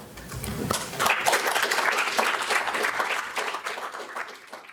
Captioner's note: crowd applauding